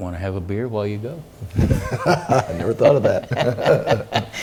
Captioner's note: laugh